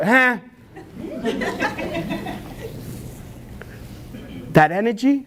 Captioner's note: audience Laughs